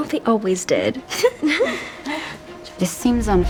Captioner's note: laughs